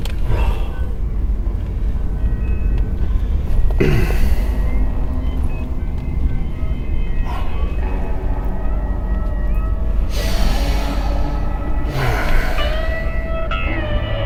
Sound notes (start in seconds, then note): 0.2 sighing; 3.7 clearing throat; 5.8 sighing; 11.8 door opening